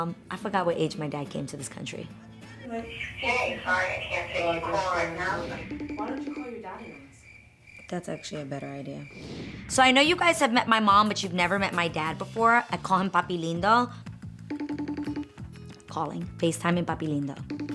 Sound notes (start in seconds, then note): 14.5 phone beeping